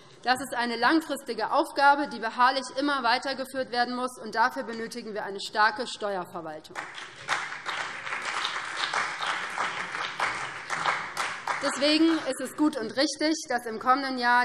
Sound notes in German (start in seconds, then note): 6.7 Beifall BÜNDNIS 90/DIE GRÜNEN und vereinzelt CDU